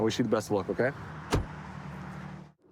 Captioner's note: door bangs